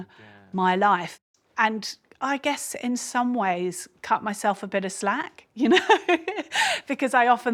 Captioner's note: laughs